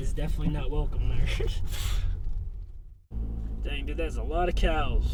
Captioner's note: laughs